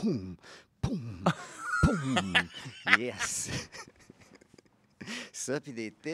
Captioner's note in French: rires